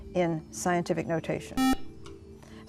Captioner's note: buzzer